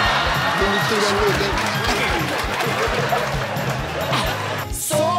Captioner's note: audience cheers; laughing